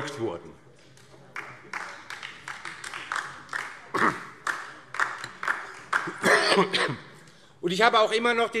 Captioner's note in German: Beifall DIE LINKE